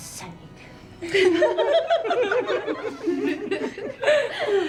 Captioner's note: women giggling